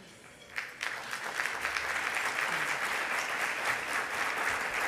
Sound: audience applauding

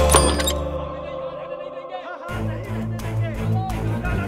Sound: sounds of crowd in a distance; dramatic music

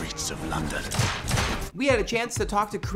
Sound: gunshots

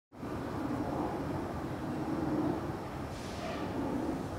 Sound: cars whooshing

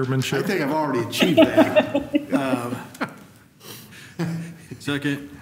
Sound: laughter

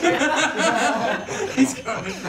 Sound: laughs

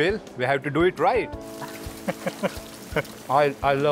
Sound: laughs

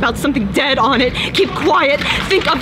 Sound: clapping in background

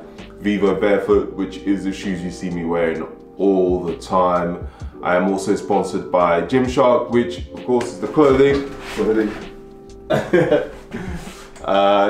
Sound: laughs

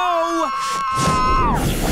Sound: screaming

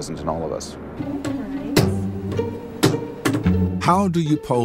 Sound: bright electronic music; hands thudding

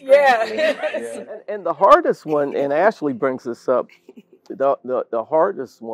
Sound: laugh

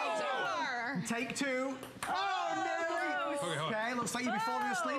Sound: cheering

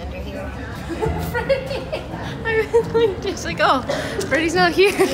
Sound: laughs

